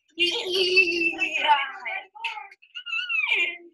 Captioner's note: squealing